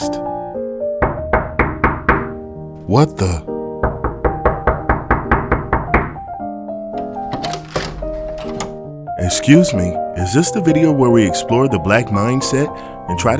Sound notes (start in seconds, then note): 0.1 soft music; 1.0 door knocking; 3.7 soft music; 3.8 door knocking; 6.9 door clicking; 7.6 soft music